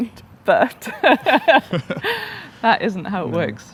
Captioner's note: both laughing loudly